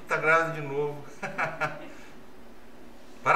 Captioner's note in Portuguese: risos